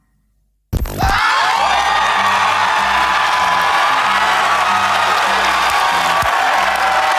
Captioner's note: audience cheers; upbeat jazzy music